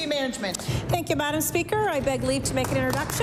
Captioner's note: applause